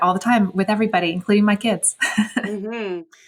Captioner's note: laughs